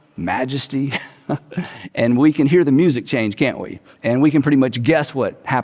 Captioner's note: chuckles